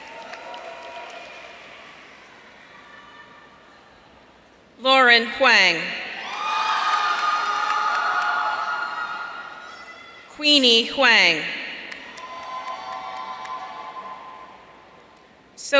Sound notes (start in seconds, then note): 6.2 audience cheering; 12.0 audience cheering